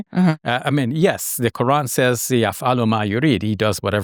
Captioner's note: speaking Arabic